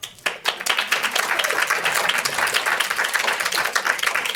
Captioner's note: audience applauding